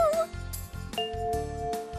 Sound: bell chimes

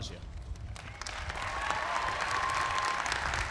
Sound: applause

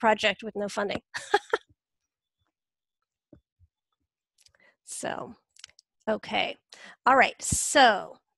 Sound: laughs

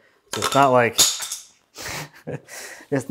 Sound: wood clatters; chuckles

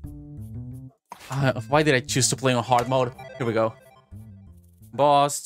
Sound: sigh

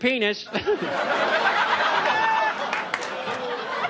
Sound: audience laughs

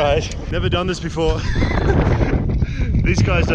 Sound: chuckling

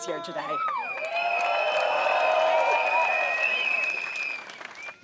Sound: crowd cheers

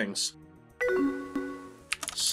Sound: incoming message

